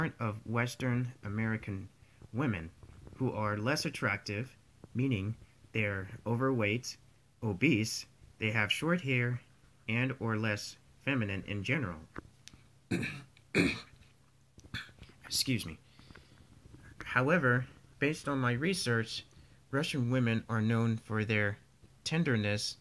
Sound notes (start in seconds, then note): 12.9 cough